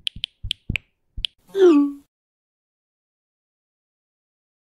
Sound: text sounds

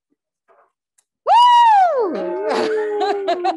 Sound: cheers; laughs

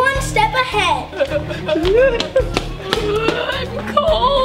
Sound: both crying

